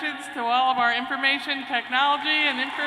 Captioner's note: cheers and applause